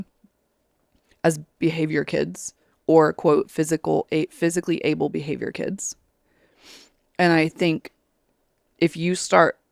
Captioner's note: sniffles